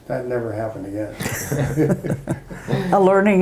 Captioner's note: all laugh